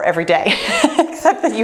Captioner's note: laughs